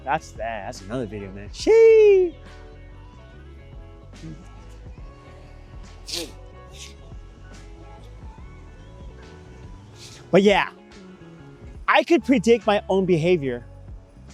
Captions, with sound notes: That's another video, man. Sheeee! (Sniff) (Sniff) But yeah, I could predict my own behavior.